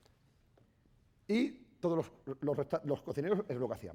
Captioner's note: speaking spanish